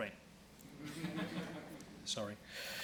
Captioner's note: laughing